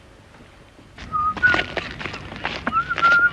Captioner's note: whistling